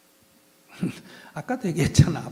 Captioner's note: laughter